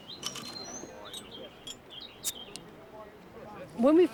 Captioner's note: birds singing